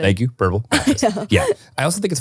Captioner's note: laughing